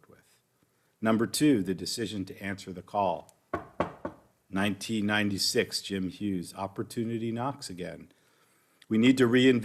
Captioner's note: knocks on wood